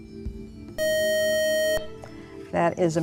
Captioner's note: beeping